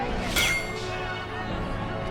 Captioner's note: metal clang